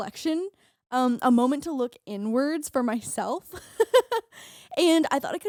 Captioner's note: laughing